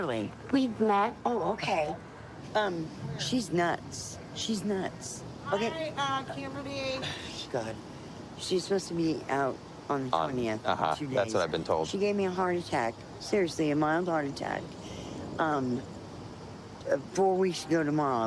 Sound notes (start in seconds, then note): 4.8 scoffs